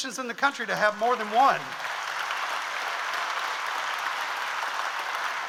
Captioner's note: audience applauds